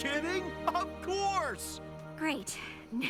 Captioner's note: chuckles